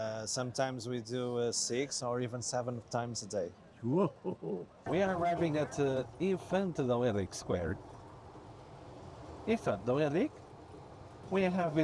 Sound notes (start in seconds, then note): 8.0 engine running